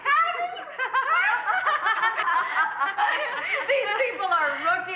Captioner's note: laughing